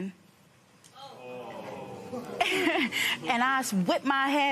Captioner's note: audience murmurs